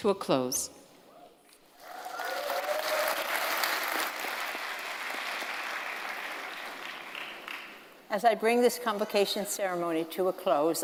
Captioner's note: cheers and Applause